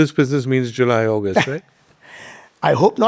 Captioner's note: chuckles